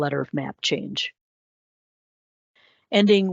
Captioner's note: silence